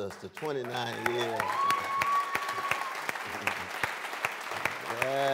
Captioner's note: applause